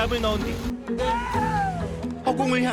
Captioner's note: yelling